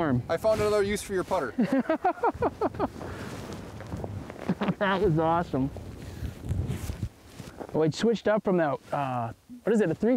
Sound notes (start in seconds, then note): 1.6 chuckles